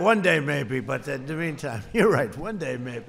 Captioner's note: laughs